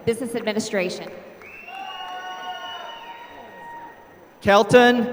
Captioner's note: applause